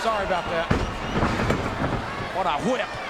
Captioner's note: Austin thudding